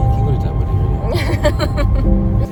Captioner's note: laughter